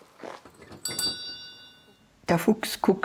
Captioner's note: bell rings